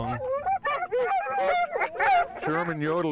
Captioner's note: dogs barking